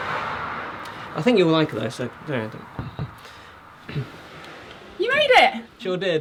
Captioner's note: knocks on door